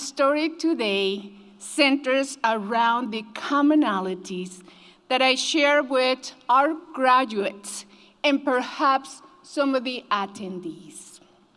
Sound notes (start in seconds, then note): none